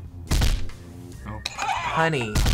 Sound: buzzer rings

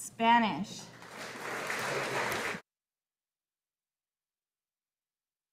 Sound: audience applauding

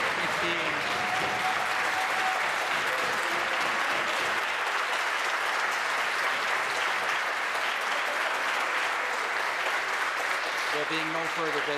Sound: applause

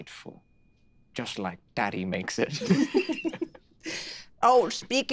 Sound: chuckling

